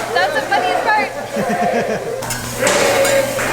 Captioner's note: laughs